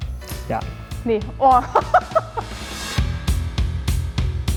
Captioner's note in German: lacht